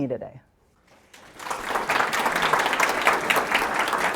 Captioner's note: audience applauds